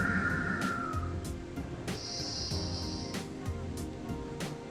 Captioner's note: breathes deeply